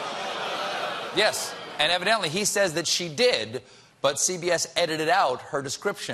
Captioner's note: audience reacts